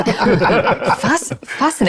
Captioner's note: laugh